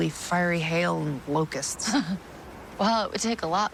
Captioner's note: laughing